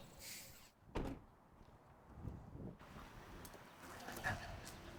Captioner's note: door thudding